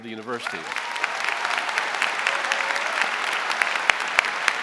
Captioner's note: audience applauding